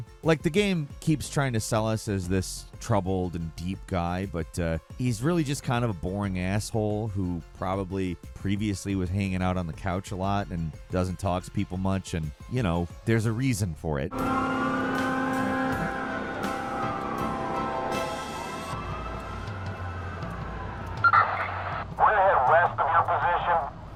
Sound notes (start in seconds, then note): 14.1 sirens blaring; 21.9 police Radio